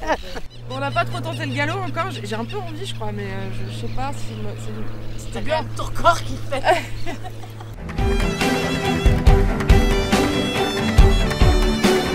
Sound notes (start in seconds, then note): 5.0 laughs